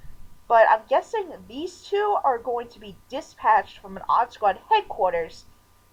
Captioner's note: none